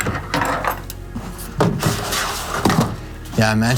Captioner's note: boxes rattling